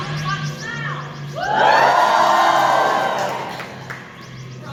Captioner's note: audience cheer very loudly